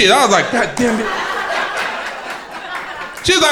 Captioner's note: crowd laughing